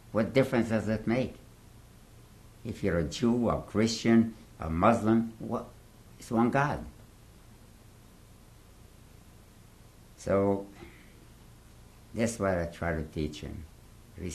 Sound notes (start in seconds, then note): 6.8 pauses for 3 seconds